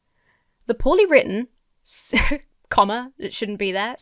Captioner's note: chuckles